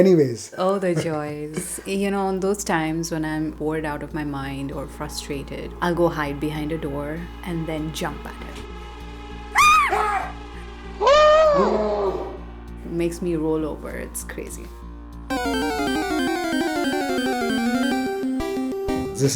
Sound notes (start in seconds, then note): 9.5 screams; 15.3 arcade video game music